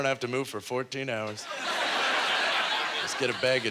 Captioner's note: audience laughter